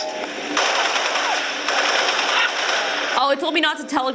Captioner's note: gun fire